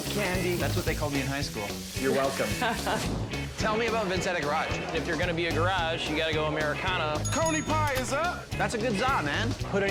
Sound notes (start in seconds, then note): 2.8 laughs; 3.1 logo whooshes; 7.2 bell dings